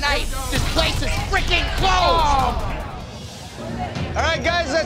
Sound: patrons sighing

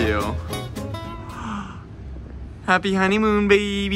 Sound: gasps

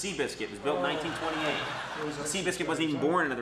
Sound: audience laughs

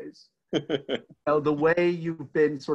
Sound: laughing

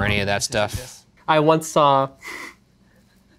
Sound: laughs

